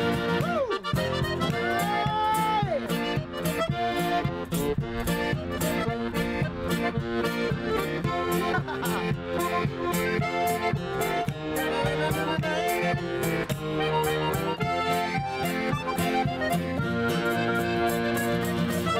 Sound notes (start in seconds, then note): 1.3 yelling; 3.1 accordion and guitar music; 7.6 laughing; 11.5 humming along; 13.7 accordion and guitar music